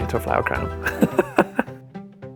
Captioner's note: laughs